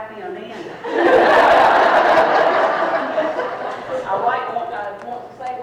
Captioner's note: people laughing